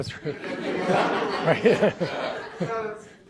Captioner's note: audience laughs